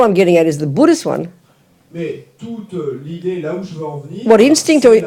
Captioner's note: French